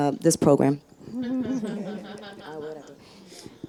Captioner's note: audience and panelists giggling